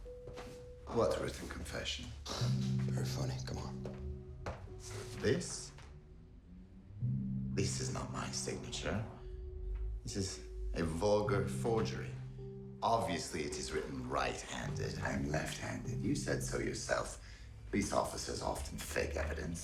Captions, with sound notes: - What written confession? - (chuckles) Very funny, come on. - This? This is not my signature. This is a vulgar forgery. Obviously it is written right-handed. I am left-handed. You said so yourself. Police officers often fake evidence.